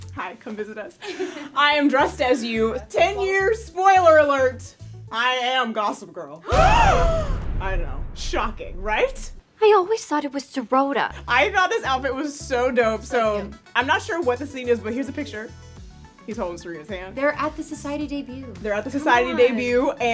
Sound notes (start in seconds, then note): 6.3 gasping; 6.5 dramatic drum hit